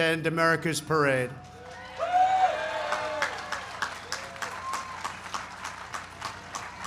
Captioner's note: applause